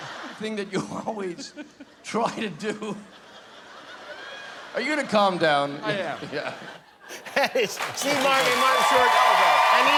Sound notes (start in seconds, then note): 2.9 laughs